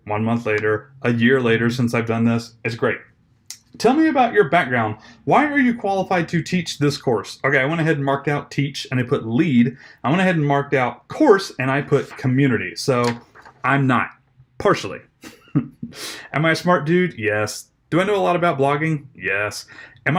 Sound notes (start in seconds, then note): 15.2 chuckles